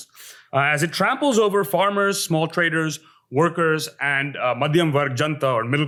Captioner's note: hindi